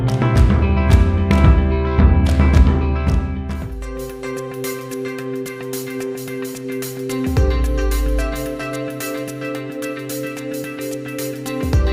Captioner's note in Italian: Applauso